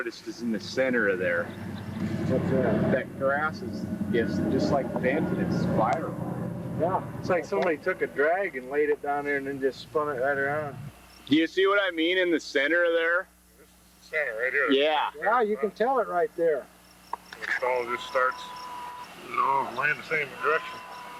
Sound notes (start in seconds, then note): 3.8 tractor engine rumbling